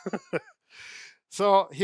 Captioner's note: chuckles